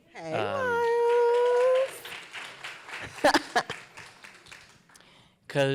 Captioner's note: applause